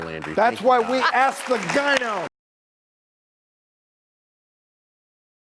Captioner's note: audience applause